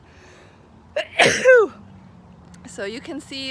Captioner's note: sneezing